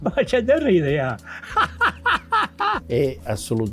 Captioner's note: laughing